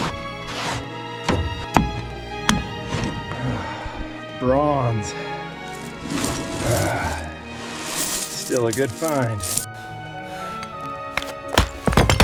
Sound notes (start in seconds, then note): 2.4 metal clangs; 2.4 shovel scrapes; 3.3 sighs; 6.6 coals scatter; 11.1 shovel scrapes